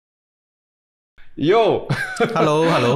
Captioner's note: laughs